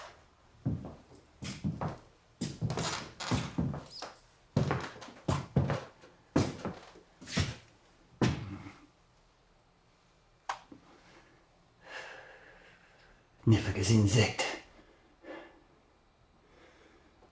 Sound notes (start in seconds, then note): 13.6 Koch speaking German